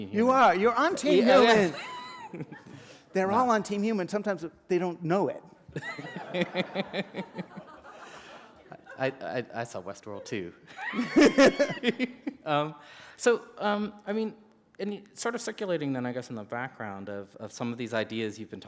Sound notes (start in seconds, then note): 1.8 chuckle; 7.4 laughter; 12.0 laughter